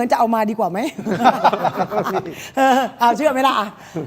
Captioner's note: laughs